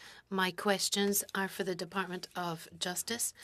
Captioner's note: speaking French